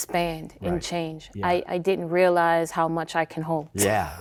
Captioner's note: chuckling